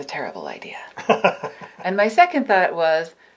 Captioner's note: laughs lightly